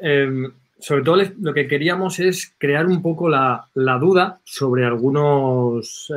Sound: speaking in foreign language

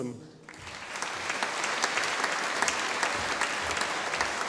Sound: audience applauding

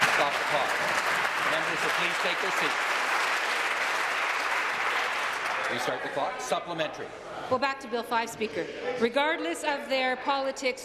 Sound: some Applause

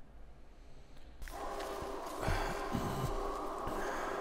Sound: wind Blowing

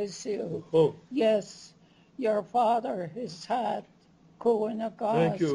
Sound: non-english speech; non-english speech

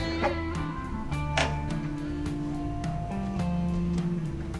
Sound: door opens

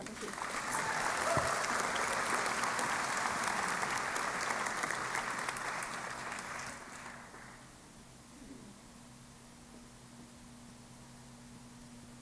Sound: applause

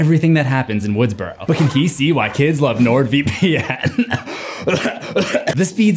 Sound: coughing fit

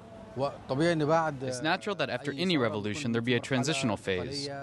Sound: through translator

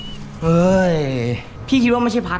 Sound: sighs

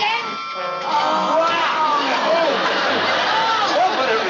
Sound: groans

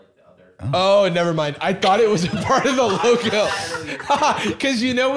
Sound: laughing

